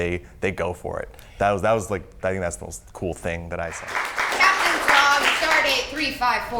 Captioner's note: applause